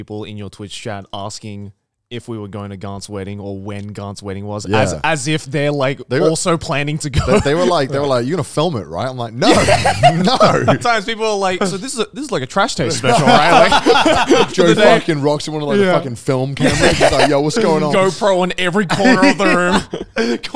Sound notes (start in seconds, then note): 12.8 all laughing